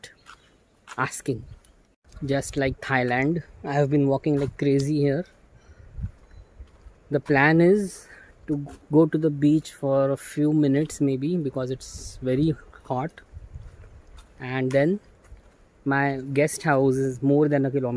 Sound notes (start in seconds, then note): none